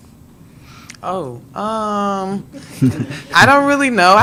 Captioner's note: some attendees laugh